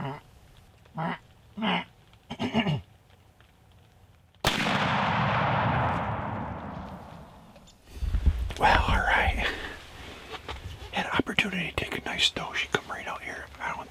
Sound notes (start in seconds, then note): 0.3 grunting; 4.4 gun shot